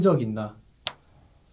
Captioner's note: snap!